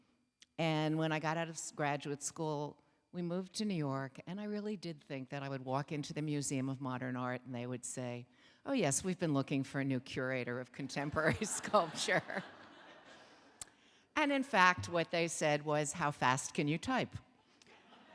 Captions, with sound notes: And when I got out of graduate school, we moved to New York and I really did think that I would walk into the Museum of Modern Art and they would say, "Oh yes, we've been looking "for a new curator of contemporary sculpture." (laughs) (audience laughing) And in fact, what they said was, "How fast can you type?"